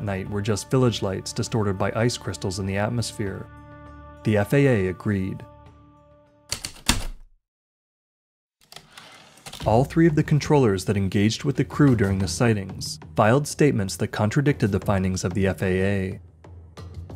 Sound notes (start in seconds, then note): 6.5 heavy typewriter keystrokes, typewriter return slide, ♪ atmospheric